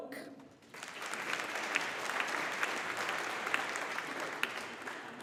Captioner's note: audience applauding